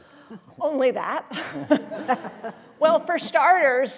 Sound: laughter

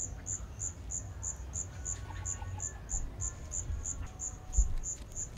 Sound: forest noises

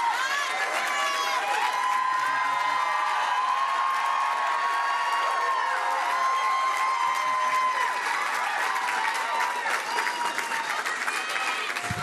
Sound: cheering

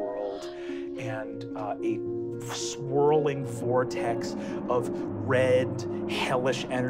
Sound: wooshes

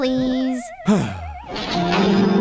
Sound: sigh

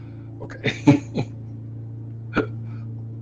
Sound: laughs

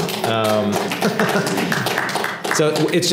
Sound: applause

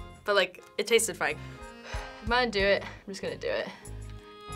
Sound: takes deep breath

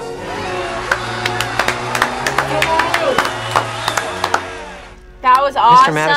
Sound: crowd cheers; both clapping

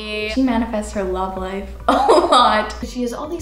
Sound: laughs

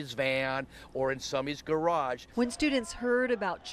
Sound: sound of rally

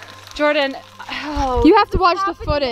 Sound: sighs

